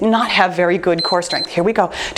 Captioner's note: timer beeps